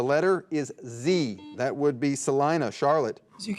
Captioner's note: buzzer dings